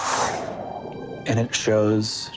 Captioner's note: mimics air whooshing